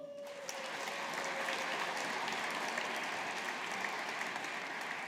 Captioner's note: audience applauding